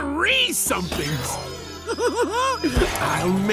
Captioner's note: giggling